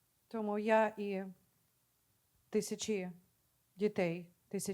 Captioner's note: speaking Ukrainian